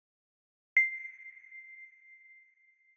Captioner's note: ding